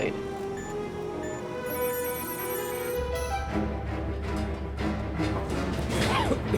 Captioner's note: alarm blaring